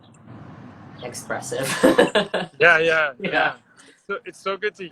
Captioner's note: laughs